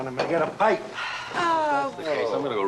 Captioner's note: Thelma sighing